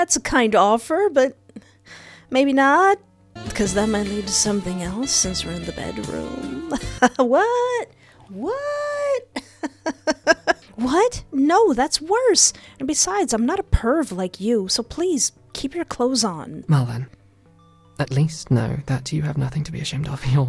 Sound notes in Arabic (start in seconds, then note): 6.4 ضحك